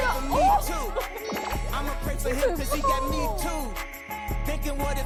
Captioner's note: two shouting with delight